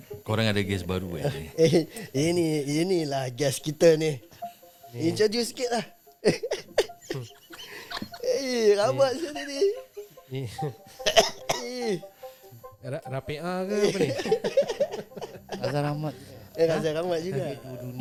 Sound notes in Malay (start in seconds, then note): 6.2 ketawa; 13.7 ketawa